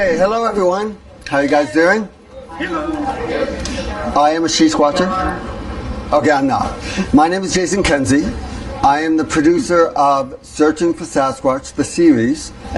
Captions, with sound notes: Okay, hello everyone, how you guys doing? (group murmuring) I am a SheSquatcher. Okay, I'm not, my name is Jason Kenzie. I am the producer of "Searching for Sasquatch," the series.